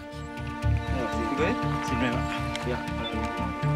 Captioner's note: Spanish language